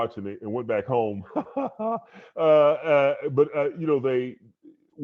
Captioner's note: laughing